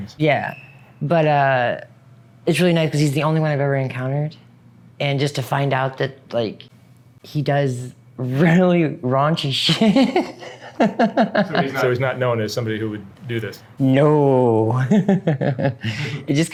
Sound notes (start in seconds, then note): 9.6 laughs; 14.8 laughs